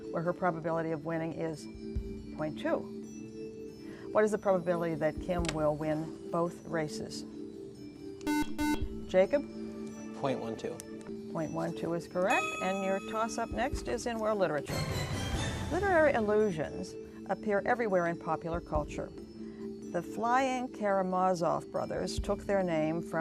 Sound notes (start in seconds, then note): 8.2 buzzer